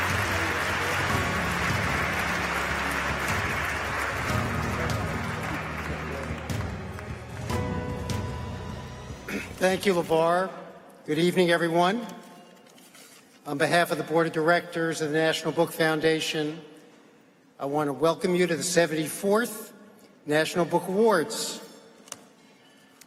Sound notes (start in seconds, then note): 12.0 applause